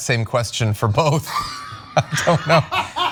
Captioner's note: laugh